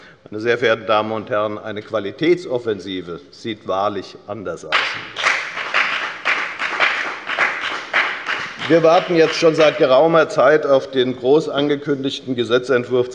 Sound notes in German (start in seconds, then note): 4.7 Beifall bei der FDP